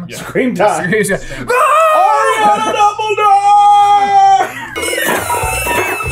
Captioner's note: screeeeeeeeeeeeam